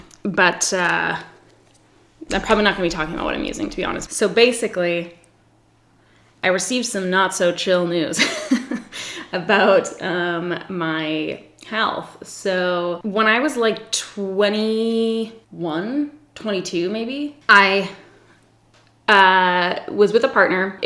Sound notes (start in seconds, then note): 8.3 laughs